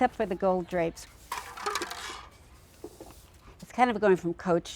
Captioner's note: sound of sweeping up popcorn